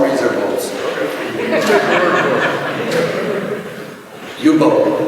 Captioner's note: laughter